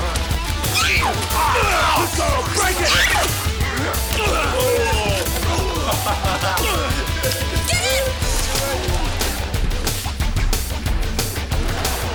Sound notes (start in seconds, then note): 1.7 man grunting; 3.7 Jodie screaming; 4.4 men laughing; 9.0 energetic rock music